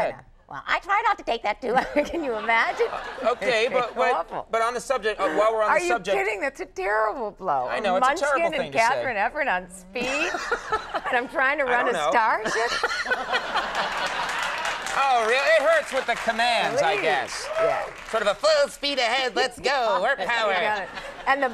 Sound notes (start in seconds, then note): 10.0 Conan laughing; 12.4 audience laughing; 12.4 Conan laughing